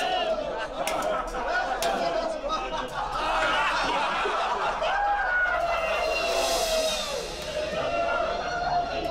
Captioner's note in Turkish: Gülme sesleri